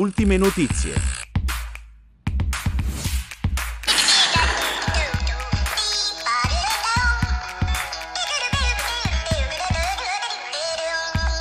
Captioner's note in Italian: Applauso